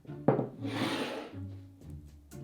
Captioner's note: bowl sliding